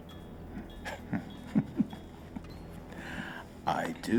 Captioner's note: both chuckling